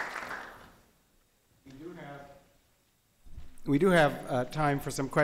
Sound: applause

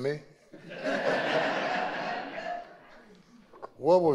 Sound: audience laughing

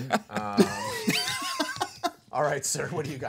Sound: group chuckling

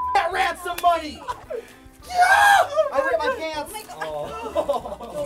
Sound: shrill shriek

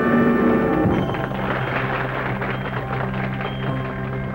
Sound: applause

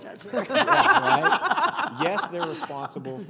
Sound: laughing

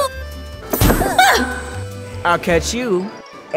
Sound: poof

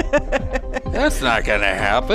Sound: laughing

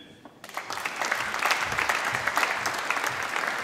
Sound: applause

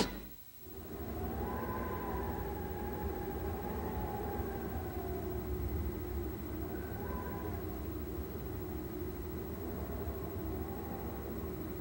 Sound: slight wind blowing

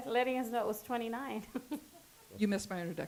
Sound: chuckles

